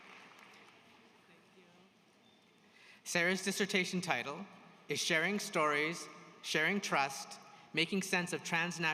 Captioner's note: applause